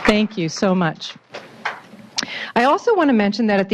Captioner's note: applause